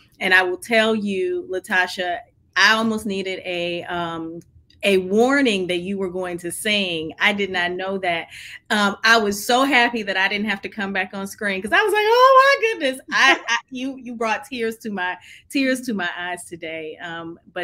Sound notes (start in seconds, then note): 13.0 laughing